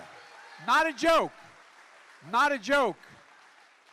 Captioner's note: applause